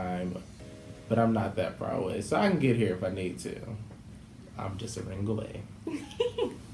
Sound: laughter

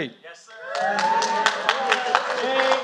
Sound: applause

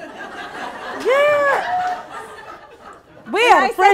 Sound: laughing

